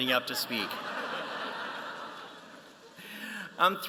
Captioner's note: laughter